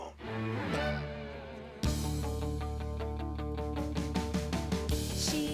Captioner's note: whispering